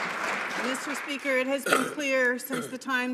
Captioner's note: some Applause